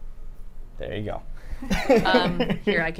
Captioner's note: laughs